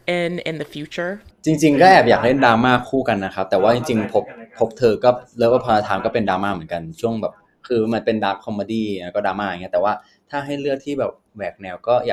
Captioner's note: answering in Thai